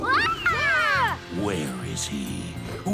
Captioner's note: roars; frightened screaming